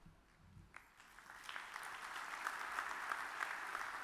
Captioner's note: audience claps